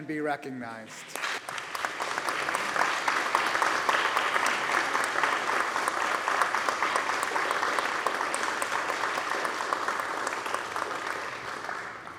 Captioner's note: applause